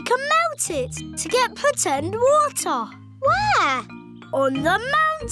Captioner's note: none